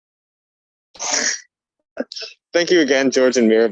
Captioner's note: object rustling